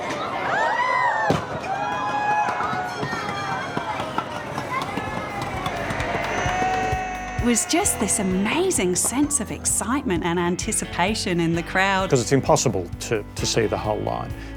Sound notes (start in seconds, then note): 0.3 crowd gasp; 5.2 cheering